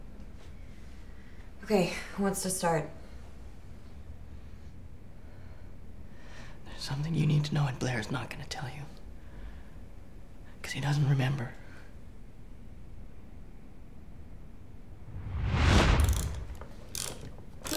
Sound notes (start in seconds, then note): 15.0 thunderclap; 17.6 mechanical cranking